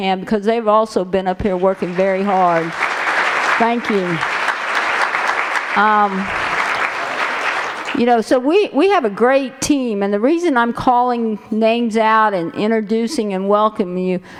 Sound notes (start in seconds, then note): 4.4 applause